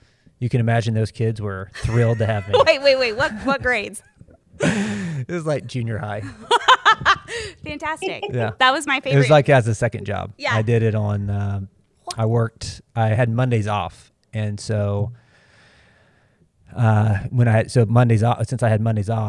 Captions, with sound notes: You can imagine those kids were thrilled to have me. -[chuckles] Wait, wait, wait, what grades. -It was junior high. -[laughs] Fantastic. That was my favorite. -It was as a second job. I had Mondays off and so since I had Mondays off,